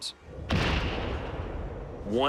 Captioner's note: explosion